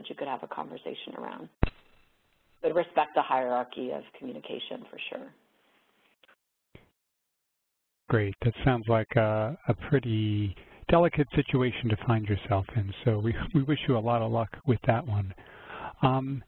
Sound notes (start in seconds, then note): 8.2 voiceover